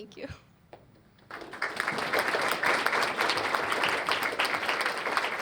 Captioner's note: applause